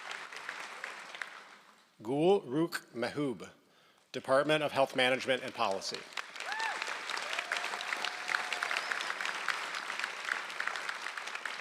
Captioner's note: applause